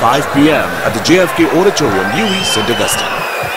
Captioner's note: wild applause and cheering for 22 seconds